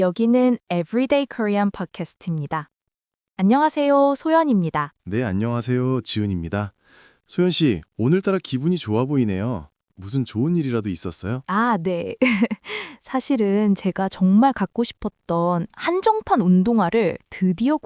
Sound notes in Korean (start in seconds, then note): 12.2 웃음